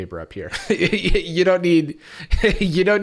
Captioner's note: laughs